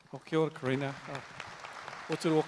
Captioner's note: audience applauds; speaks native language